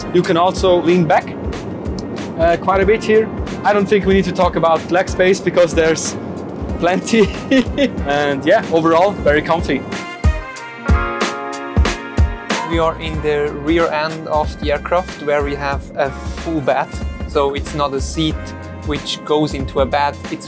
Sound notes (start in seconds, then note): 6.9 laughing; 10.2 upbeat music